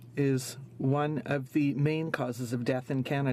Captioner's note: speaking French